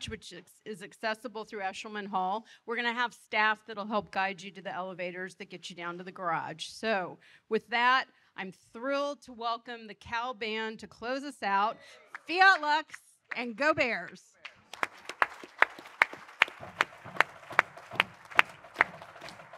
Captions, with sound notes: which is accessible through Eshleman Hall. We're gonna have staff that'll help guide you to the elevators that get you down to the garage. So with that, I'm thrilled to welcome the Cal Band to close us out. Fiat Lux and Go Bears! (all applauding)